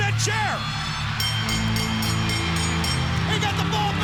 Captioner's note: bell ringing; upbeat pop music